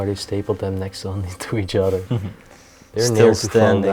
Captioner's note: laughs